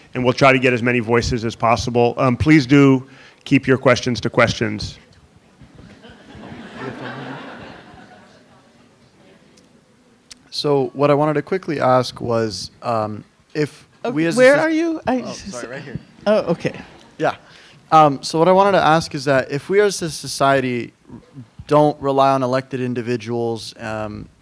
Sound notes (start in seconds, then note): 5.8 audience laughing